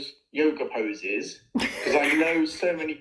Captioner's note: laughter